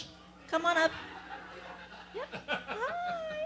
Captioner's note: laugh